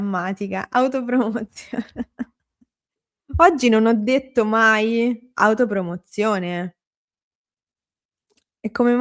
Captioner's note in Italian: risate